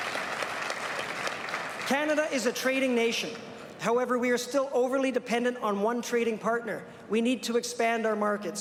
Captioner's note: applause